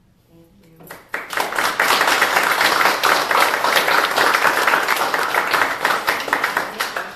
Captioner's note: applause